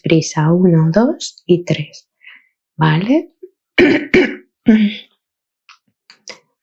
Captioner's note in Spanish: carraspeo